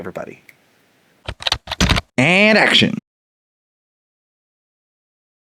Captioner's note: typing